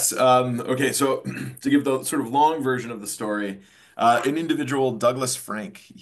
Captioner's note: cough